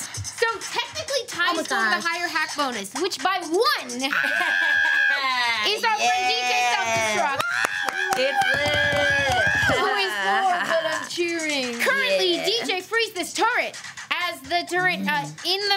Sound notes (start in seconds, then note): 4.1 screaming